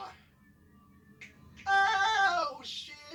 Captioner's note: autotuned voice; autotuned voice